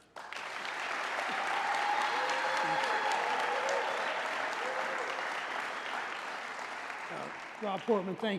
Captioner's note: applause